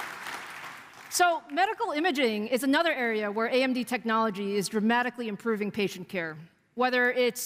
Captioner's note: applause